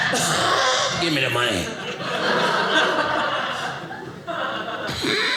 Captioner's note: audience laughing